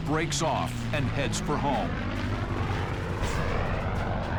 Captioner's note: none